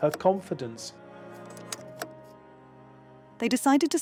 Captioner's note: slide clunking